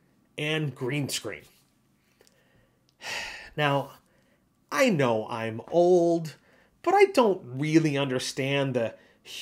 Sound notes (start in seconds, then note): 3.0 sigh